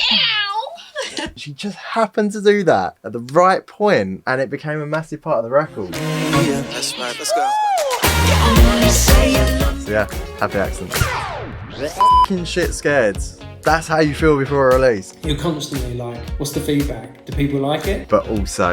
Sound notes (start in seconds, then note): 0.0 meows; 0.0 laughing; 10.8 record scratch; 11.9 beep